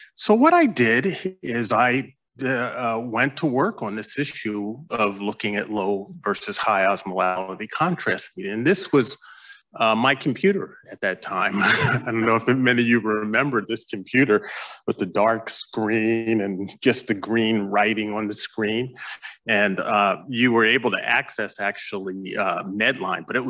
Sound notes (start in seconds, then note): 11.4 chuckles